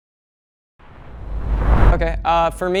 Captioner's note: air swooshing